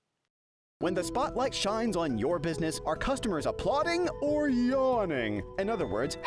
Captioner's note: voice-over